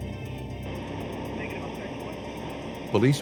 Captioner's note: police radio chatter